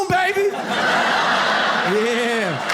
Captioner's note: audience laughs